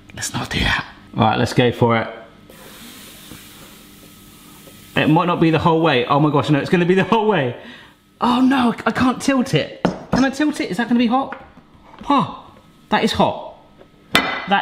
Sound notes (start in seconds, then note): 2.4 batter sizzling